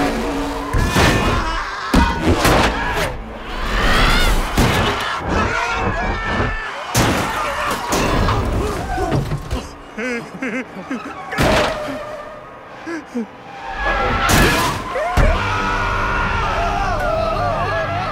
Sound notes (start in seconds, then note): 0.4 screaming; 0.7 thudding; 9.4 nervous laughing; 11.3 tires screeching; 13.5 screaming